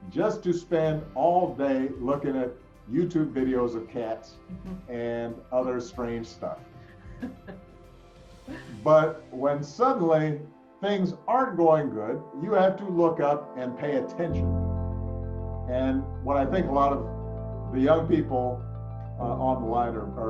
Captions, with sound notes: just to spend all day looking at YouTube videos of cats, and other strange stuff. (laughing) But, when suddenly things aren't going good, you have to look up and pay attention and what I think a lot of the young people on the line